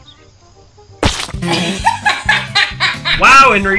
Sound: splat; Wade bursts out laughing

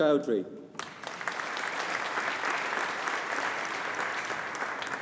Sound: audience applauding

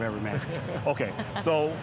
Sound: laughing

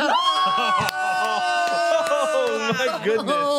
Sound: cheering

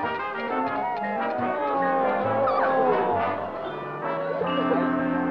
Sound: groans

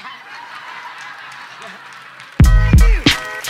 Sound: laughter; audience laughing and clapping

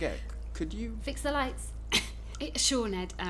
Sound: coughs

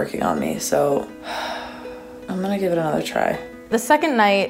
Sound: deep sigh

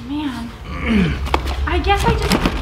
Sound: grunts

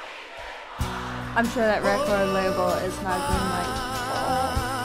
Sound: groans

